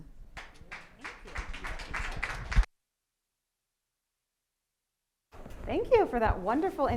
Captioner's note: audience applauding